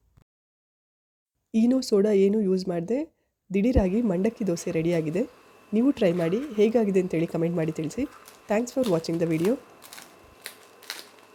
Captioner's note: chews loudly like an Elephant herd trampling dry leaves in the forest